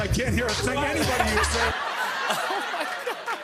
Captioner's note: laughter